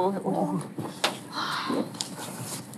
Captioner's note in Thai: ถอนหายใจ